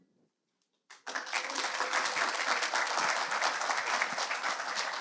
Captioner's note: audience applauds